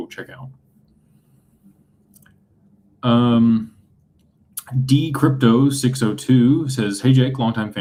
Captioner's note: clears throat